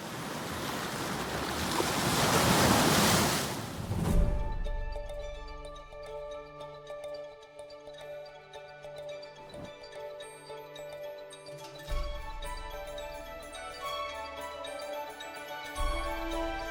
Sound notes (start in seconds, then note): 3.5 waves crashing; 8.1 soft music